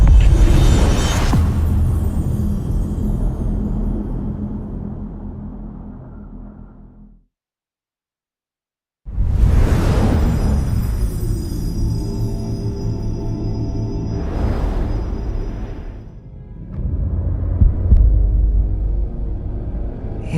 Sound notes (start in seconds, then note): 0.0 dramatic sound; 9.5 dramatic sound; 17.3 dramatic music playing